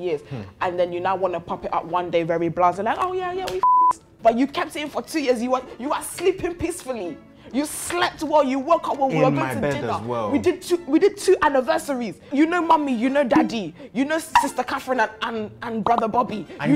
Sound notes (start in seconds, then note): 3.6 beep